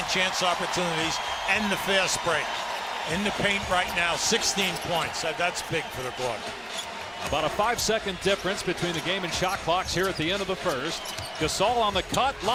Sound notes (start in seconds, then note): 2.6 cheers and applause